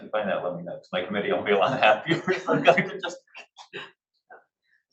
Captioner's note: laughs